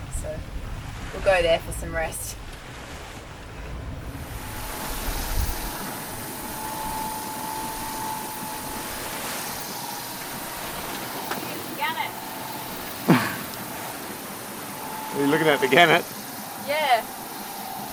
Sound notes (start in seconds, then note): 4.4 motor revving; 9.2 water splashing; 13.0 chuckles